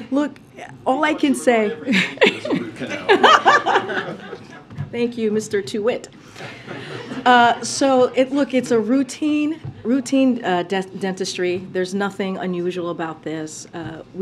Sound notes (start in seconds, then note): 3.8 laughter; 6.4 laughter